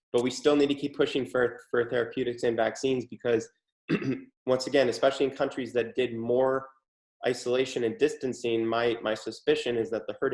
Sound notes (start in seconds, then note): 3.9 clears throat